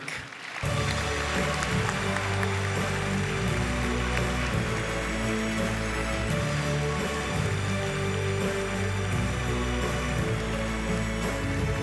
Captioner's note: applause